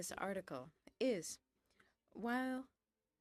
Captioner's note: speaking in French